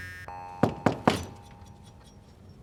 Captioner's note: door knocking